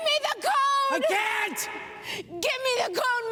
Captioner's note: shouting